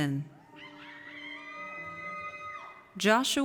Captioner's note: audience cheers